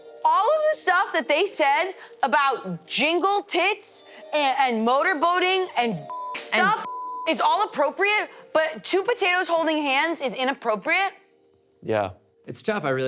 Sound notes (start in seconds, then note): 6.1 beep